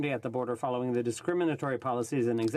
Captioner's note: speaking French